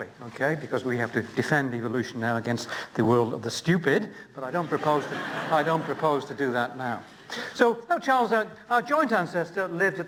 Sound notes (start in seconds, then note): 4.6 laughter